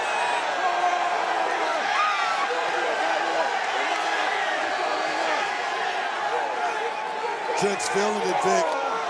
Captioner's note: crowd cheers